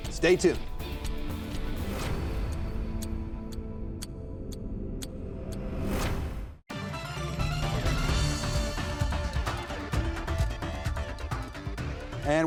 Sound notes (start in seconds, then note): 1.6 clock ticking; 1.6 dramatic music; 6.7 lively music